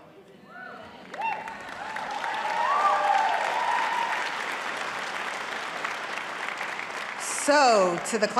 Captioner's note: applause